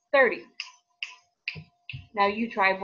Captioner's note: fingers snapping